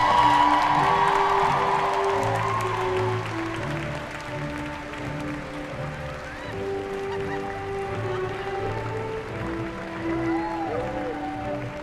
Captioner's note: cheering